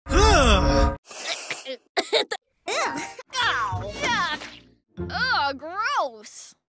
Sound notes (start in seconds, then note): 1.3 coughing